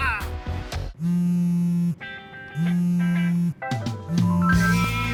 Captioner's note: cell phone rings